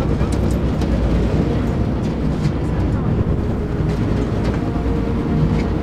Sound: water splashing; wind blowing

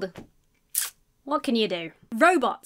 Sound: sucks her teeth

